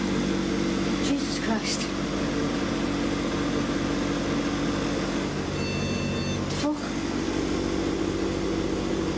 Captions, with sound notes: Jesus Christ. (electronic beeping) The fuck?